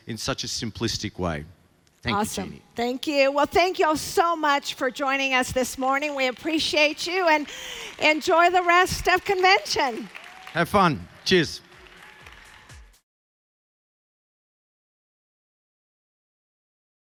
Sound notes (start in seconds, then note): 11.3 upbeat music; 12.2 audience applauding